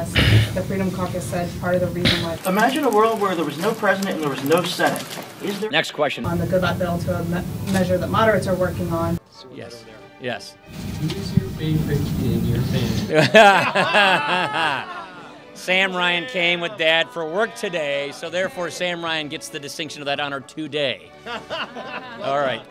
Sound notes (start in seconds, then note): 13.0 laughter